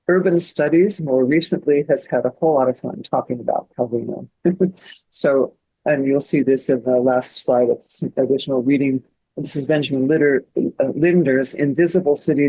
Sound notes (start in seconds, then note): none